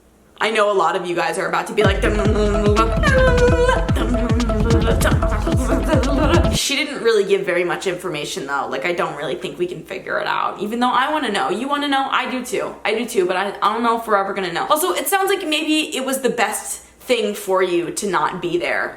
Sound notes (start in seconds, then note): 1.8 upbeat music; 2.1 screeching